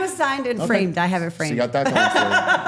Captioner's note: all laughing